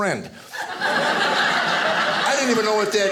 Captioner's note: audience laughing